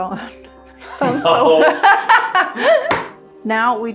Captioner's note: chuckling